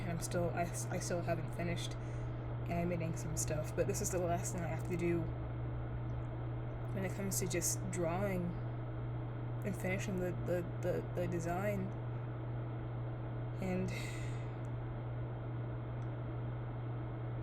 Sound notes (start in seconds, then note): 13.9 sigh